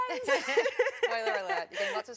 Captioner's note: laughter